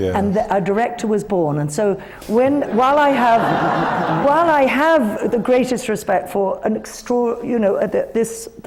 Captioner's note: laughter